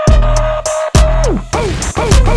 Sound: record Stops

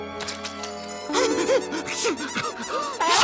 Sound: gasping

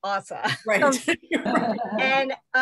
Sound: laughter

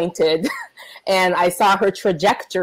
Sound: laughs

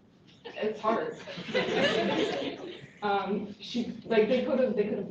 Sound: laughter

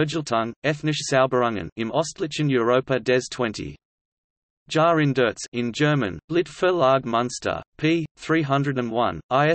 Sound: in German

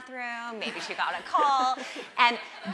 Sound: audience laughing

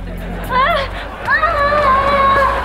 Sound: screaming

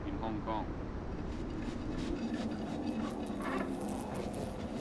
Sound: cloth grating; fly buzzing

